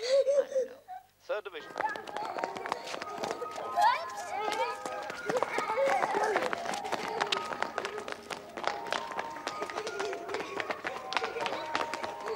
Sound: Sandra laughs; Sandra cries; Valerie cries; soft music

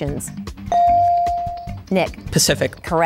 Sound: bell dinging

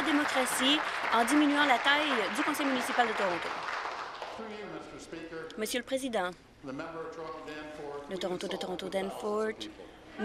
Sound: applause

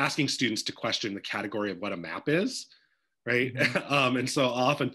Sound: chuckles

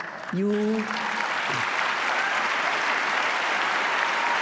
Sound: applause

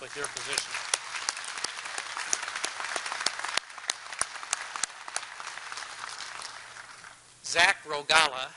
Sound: applause

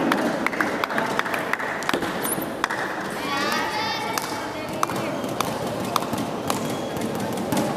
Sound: applause

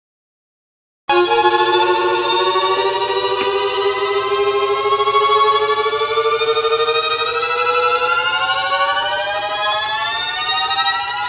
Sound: portamento sound

